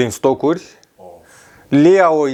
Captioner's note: sigh